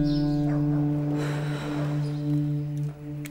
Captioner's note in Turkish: Nefes sesi